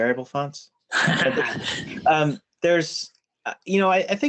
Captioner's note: laughter